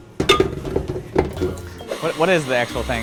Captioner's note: glass banging on metal